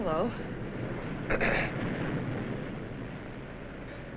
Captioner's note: clears throat